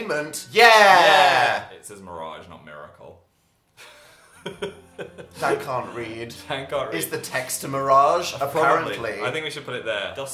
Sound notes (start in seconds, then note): 3.9 laughing